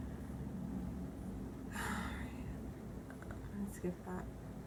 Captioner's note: deep sigh